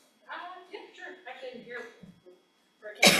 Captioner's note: speaking off-mic